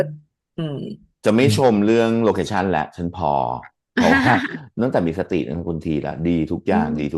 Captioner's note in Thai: เสียงหัวเราะ